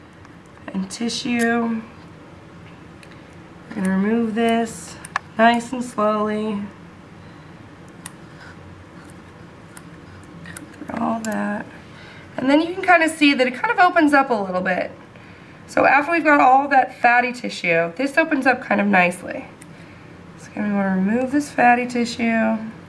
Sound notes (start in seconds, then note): 7.8 scissor-clipping sounds